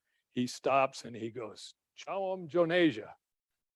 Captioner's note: speaking in foreign language